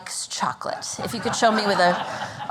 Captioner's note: laughter